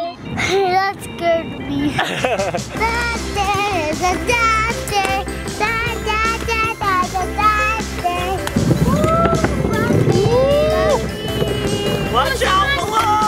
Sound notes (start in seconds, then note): 1.8 laughs